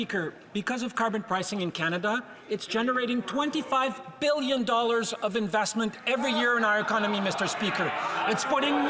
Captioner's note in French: voix de l'interprète